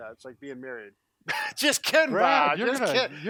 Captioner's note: laughs